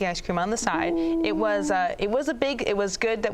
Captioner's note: coos